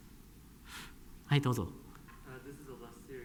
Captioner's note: speaking japanese